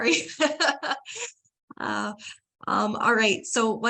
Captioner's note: laughter